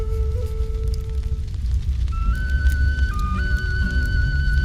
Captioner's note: fire crackling